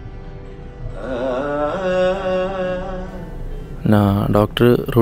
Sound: radio playing

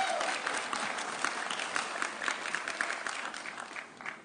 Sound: audience cheering

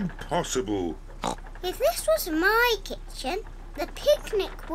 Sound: oinks

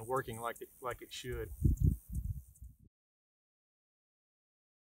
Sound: wind whooshing

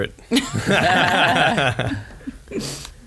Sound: laughs

